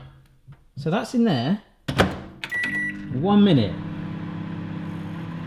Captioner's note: beeping